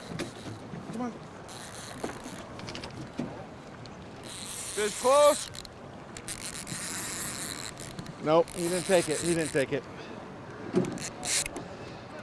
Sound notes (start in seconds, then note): 4.2 reel spinning; 6.1 reel cranking